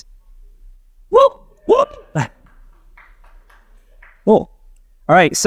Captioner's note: participant cheering